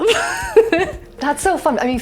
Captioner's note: laughing